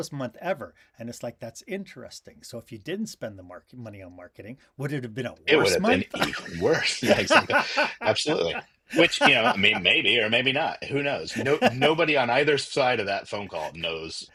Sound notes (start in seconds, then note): 6.0 laughter